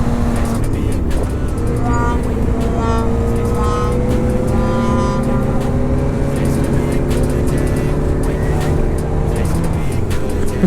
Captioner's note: laughing